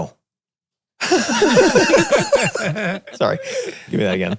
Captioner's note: all laugh